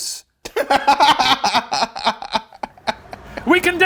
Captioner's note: laughing